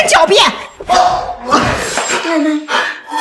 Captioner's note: scoffs